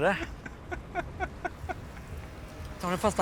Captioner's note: laughs